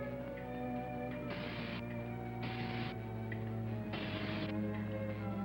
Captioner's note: electricity crackling